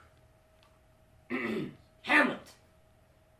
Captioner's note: clears throat pointedly